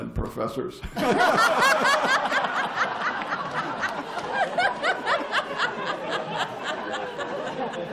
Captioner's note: laughter